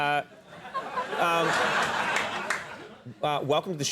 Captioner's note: audience laughing